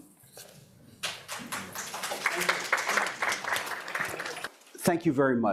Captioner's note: audience claps